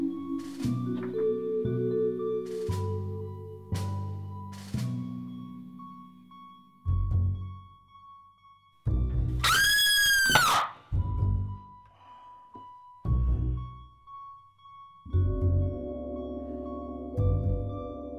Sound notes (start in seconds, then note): 9.4 loud Scream; 12.6 gasps